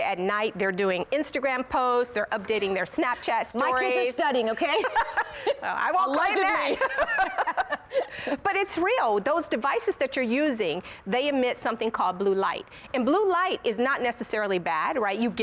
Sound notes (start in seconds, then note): 6.3 laughter